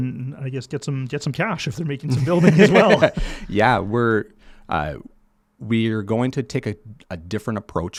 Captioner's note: laughs